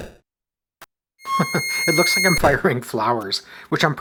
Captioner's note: chuckles